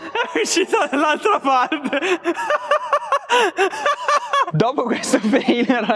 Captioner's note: laughter